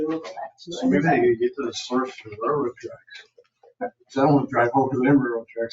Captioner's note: people chattering